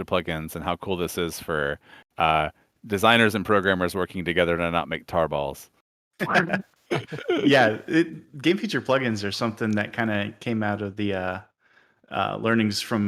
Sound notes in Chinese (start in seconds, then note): 6.8 笑声